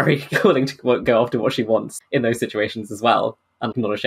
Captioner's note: laughing